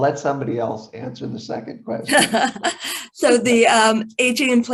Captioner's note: laughs